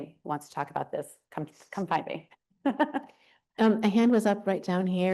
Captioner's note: laughs